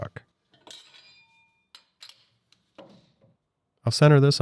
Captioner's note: tool clanks